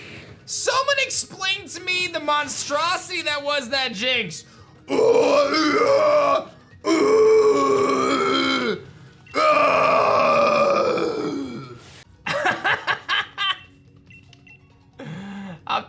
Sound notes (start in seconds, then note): 4.6 growls; 12.3 laughs